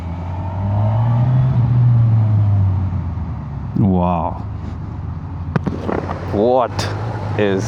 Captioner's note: engine thrum